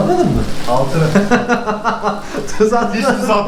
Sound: laughs

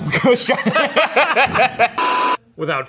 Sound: laughing

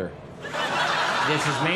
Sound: crowd laughs

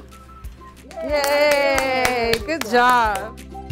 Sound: nurses cheer

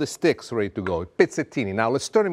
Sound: speaks Italian

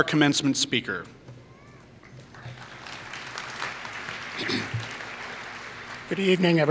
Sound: applause

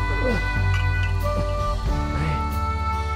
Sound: bottles clinking

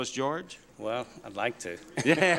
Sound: laughter

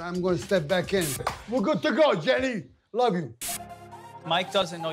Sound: clap

